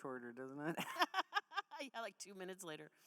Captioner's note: laughing